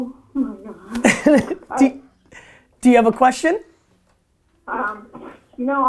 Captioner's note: laughs